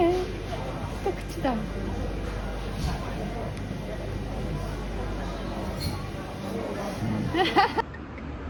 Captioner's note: laughs